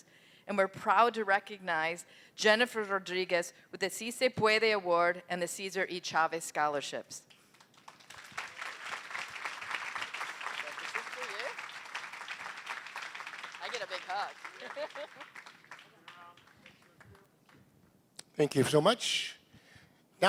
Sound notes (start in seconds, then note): 4.0 non-english speech; 7.4 applause